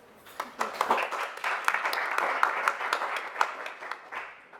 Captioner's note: audience applauds